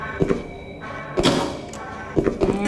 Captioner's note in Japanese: 物音